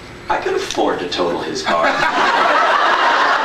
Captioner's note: laughs